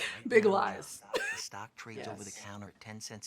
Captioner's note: laughing